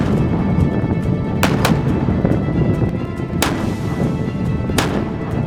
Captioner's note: shots fired